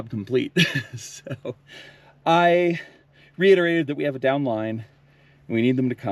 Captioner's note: laughs